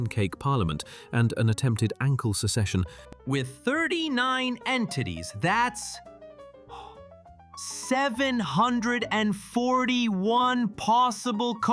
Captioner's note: gasps